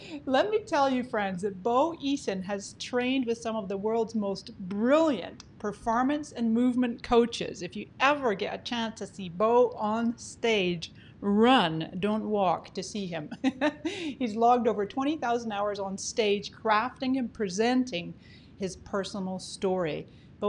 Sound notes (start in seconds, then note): 13.4 laughing